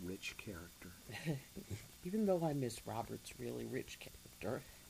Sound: laughs

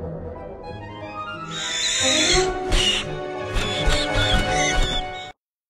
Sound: screeching

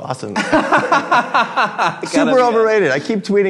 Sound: laughing

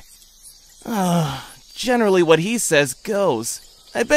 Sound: sigh

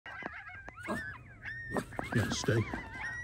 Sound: coyotes yipping and howling; dog barks

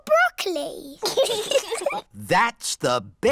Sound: both giggle

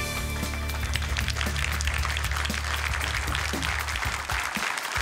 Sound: applause

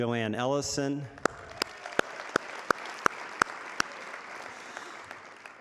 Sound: audience applauding

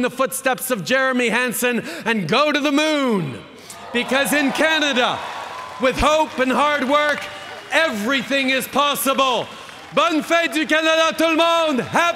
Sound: cheering

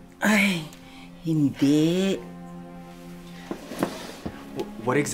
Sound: Criselda speaks Tagalog

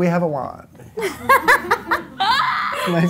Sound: laughter

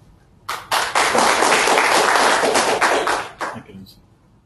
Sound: audience claps

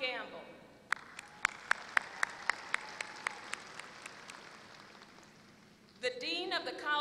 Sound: applause

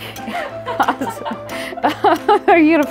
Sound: laughing

